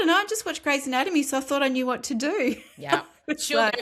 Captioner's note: laughs